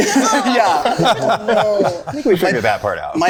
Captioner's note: group laughing